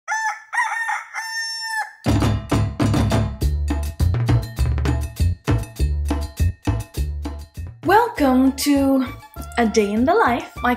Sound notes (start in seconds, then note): 0.0 rooster crowing; 2.0 upbeat music